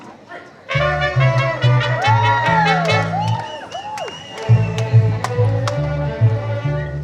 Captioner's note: folk music plays; cheering